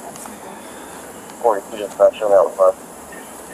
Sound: radio dispatch

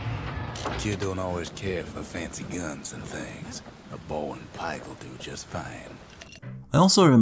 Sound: in-game audio

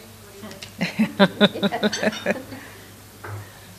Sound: laughs

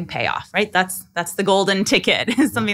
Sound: laughing

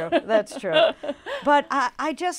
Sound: laughs

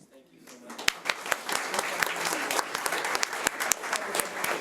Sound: audience applauding

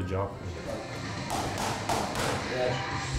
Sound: thumping

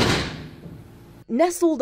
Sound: nats of door slammin

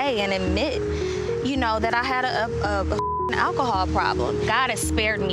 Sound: beep

